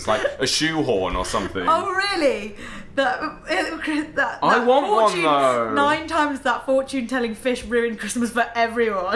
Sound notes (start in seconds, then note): 1.9 laughs